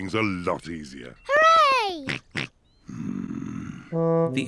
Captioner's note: snorts